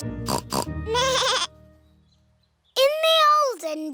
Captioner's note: both giggling; snorts; bleats